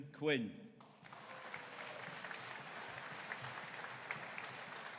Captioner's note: audience applauding